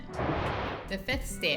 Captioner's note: image whooshing